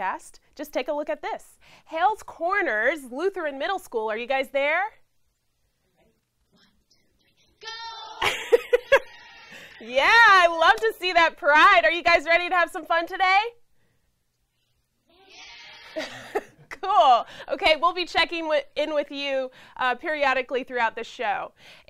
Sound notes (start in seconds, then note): 7.6 kids yell; 15.2 kids yell